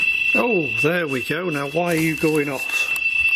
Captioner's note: beeping